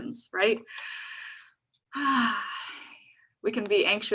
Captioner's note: sighs